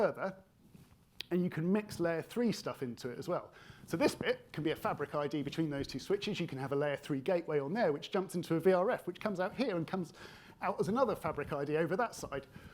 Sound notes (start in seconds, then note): none